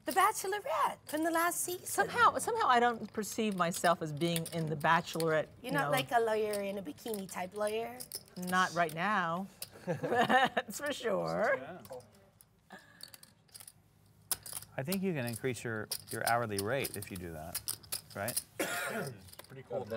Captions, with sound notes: >> The bachelorette from the last season. >> Somehow, somehow I don't perceive myself as being in the bachelorette, you know. >> You're not like a lawyer in a bikini type lawyer? >> Not right now. [LAUGH] That's for sure. >> I think you can increase your, your hourly rate if you do that, right?